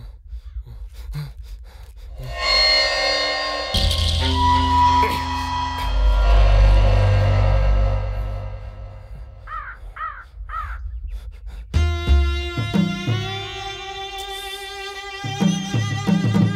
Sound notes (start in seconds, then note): 10.5 raven cawing